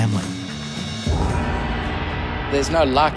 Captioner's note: gong rings